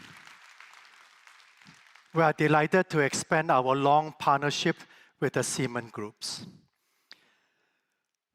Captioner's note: applause